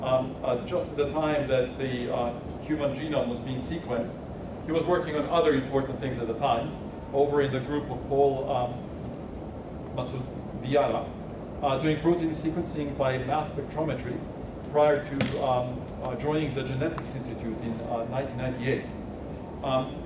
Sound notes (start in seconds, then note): 10.0 speaking faintly